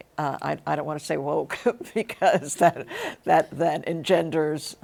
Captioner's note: chuckles